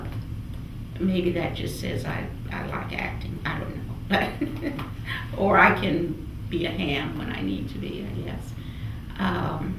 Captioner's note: laughs